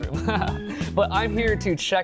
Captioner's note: laughs